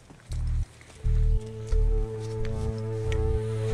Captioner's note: footsteps